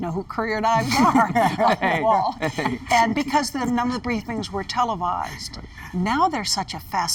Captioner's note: laughter